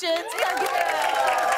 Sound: cheers and applause

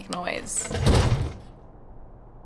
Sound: whispers; loud bang

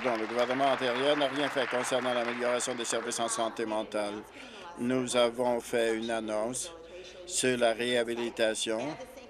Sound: applause

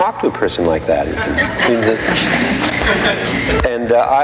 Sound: audience laughing

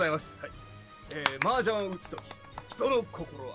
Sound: clapping

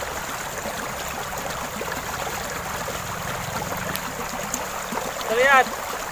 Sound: sound of gurgling water

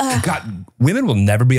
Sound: sighs

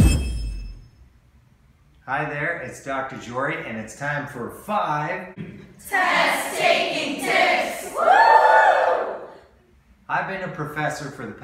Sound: cheering

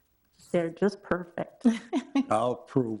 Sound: laughing

